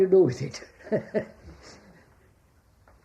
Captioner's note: laughs